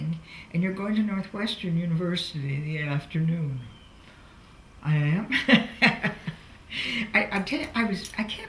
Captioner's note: laughs